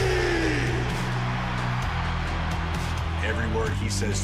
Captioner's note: cheers and applause